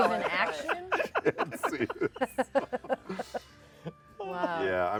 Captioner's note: laughter